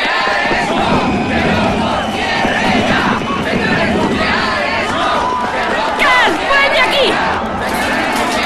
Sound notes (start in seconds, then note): 0.0 chanting